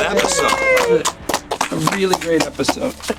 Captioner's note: cheering, applause